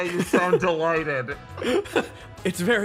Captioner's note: laughs